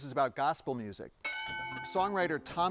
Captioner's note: bell dings